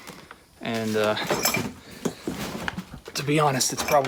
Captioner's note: clanking